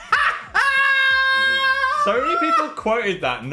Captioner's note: both laughing; Dan screaming